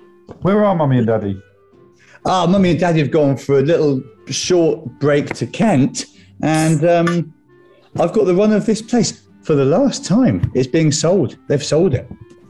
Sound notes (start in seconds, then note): 7.1 opens beer can